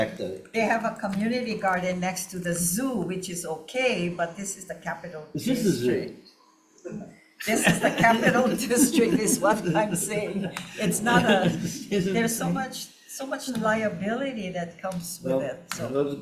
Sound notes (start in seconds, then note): 7.4 everyone laughing